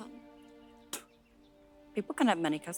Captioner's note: spitting